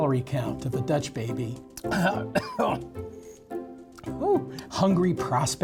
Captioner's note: coughing